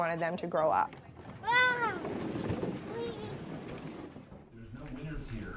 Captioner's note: kids chattering